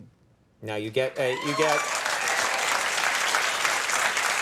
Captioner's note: audience applauds